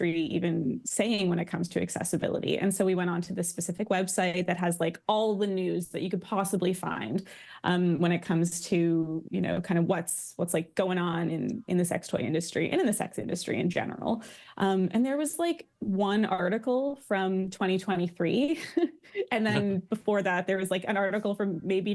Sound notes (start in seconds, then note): 19.4 laughs